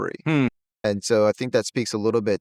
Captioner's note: hums